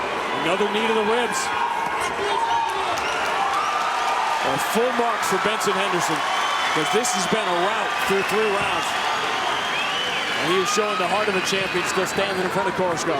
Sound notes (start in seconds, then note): 1.7 audience cheering